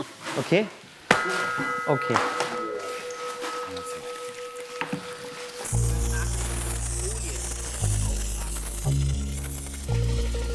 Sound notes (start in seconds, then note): 0.6 Glockenläuten; 5.6 Zischendes Sprühen, abwartende Musik